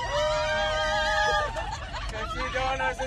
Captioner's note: cheering & applauding; laughing